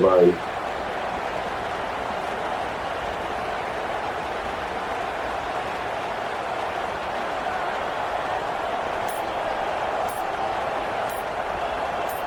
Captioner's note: crowd Noises